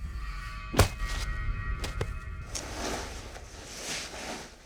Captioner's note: blow striking